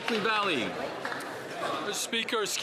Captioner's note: applause